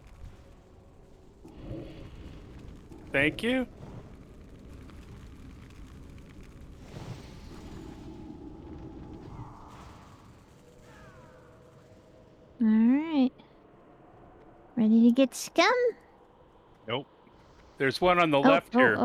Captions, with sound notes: Thank you. [wind blowing] Alright. Ready to get scum? Nope. There's one on the left here.